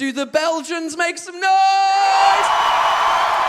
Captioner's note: audience cheers